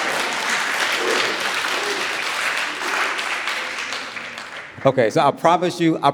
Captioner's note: audience applauding